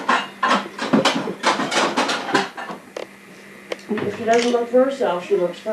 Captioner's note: dishes clattering